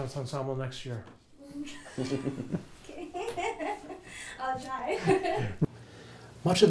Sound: laughing

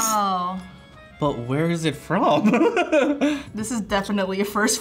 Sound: laughs

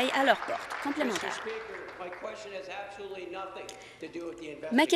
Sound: applause

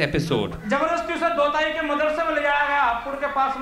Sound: non-english speech

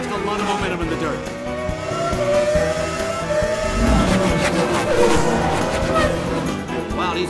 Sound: lively upbeat music; engines roaring

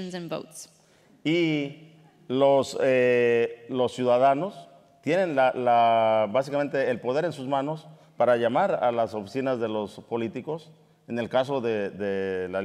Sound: speaking in Spanish

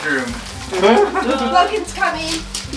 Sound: chuckles

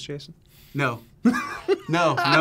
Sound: React laughs

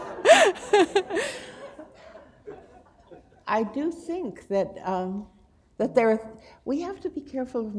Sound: laughter

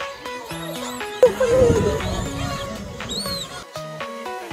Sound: birds chirping; lively music

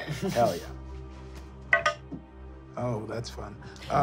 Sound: rolling dice

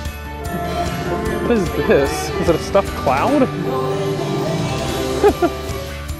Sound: laughs

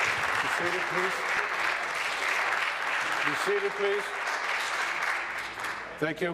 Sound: applause

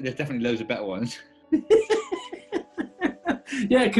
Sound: giggling

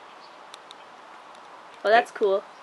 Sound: camera clicks

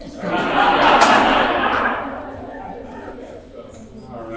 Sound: audience laughing

